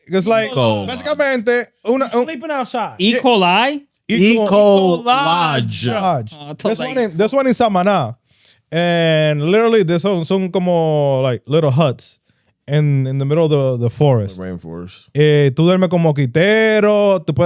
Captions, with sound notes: Because like-- (Speaking In Foreign Language) Sleeping outside. Eco-lodge. Eco-lodge. This one is, this one is something, man. And literally, there's some, some, like, little huts in the middle of the forest. The rainforest. (Speaking In Foreign Language)